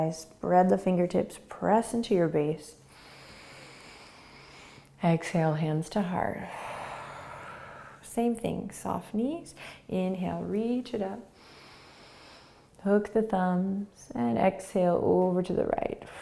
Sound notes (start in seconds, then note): 2.9 inhaling; 6.4 exhaling; 11.4 inhaling